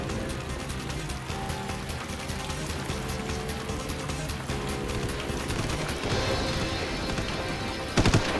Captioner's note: gunshot